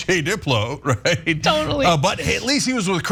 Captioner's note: laugh